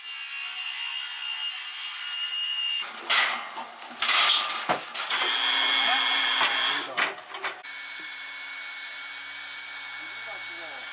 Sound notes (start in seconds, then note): none